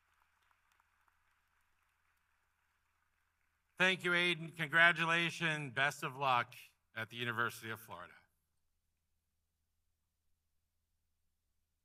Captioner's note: applause